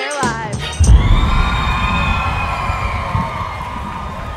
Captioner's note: cheering